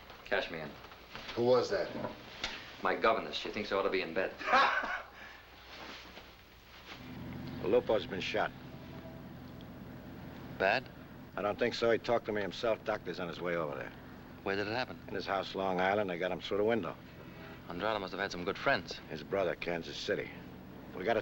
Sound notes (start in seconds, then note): 4.4 laughing